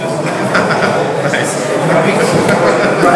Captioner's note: laughs